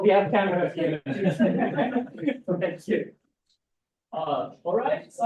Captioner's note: people laugh